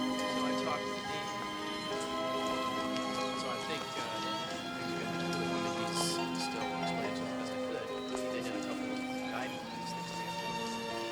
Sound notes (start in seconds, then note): 1.0 Mike chattering; 7.8 calm music